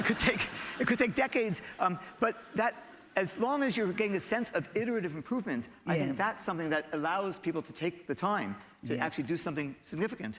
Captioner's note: laughter